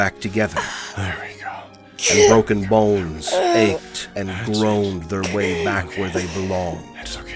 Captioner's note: Ilani making pained sounds through gritted teeth